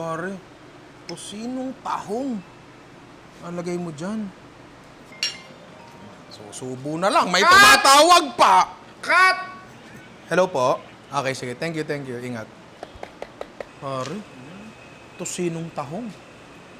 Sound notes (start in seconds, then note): 5.5 phone ringing